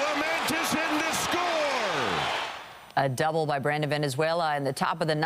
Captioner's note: applause